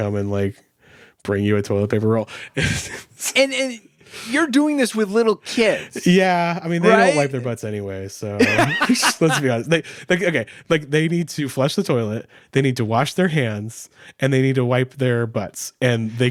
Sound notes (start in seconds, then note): 8.4 laughing